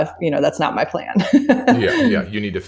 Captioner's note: laughs